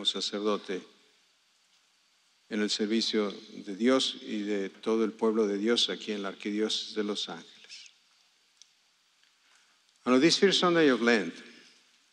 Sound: speaking spanish

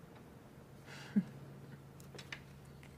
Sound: chuckles

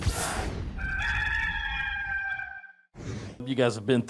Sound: rooster crowing

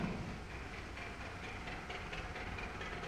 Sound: car approaching

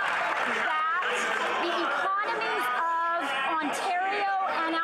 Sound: some Applause

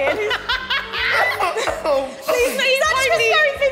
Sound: women laughing

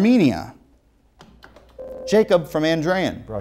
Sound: beeping

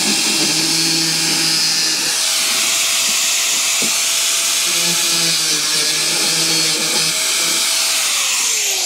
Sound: drill whirring

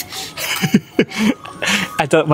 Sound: laughs

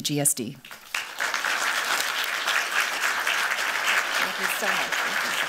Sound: applause

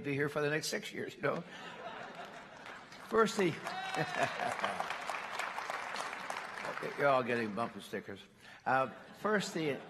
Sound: applause

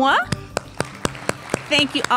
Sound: applause

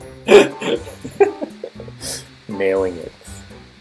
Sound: man chuckles

